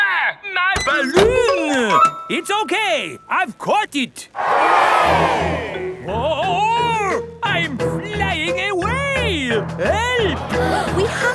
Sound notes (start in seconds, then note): 4.4 crowd cheers